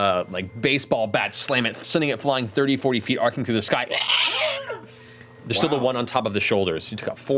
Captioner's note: ghoul screaming